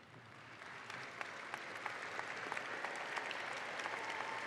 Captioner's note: audience applauds